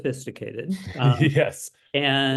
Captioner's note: laugh